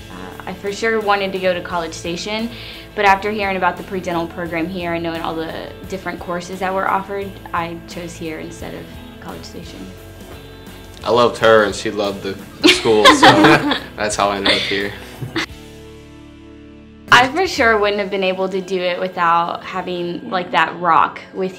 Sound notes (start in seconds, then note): 12.6 laughter